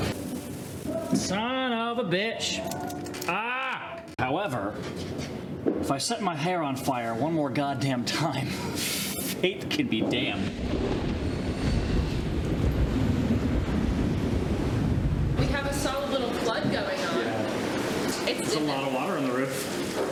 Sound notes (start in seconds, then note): 10.0 storm cloud rumble